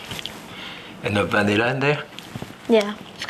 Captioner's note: Jacques speaking foreign language